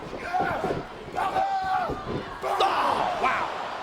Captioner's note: wrestlers grunting